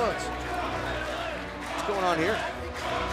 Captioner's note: crowd cheering